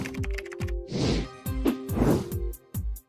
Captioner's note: upbeat music; keyboard clattering; banners whooshing